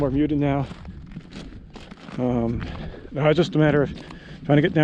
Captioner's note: gravel crunching